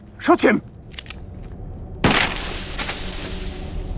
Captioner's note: gunshot